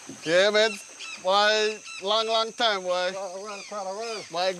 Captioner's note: foreign spoken audio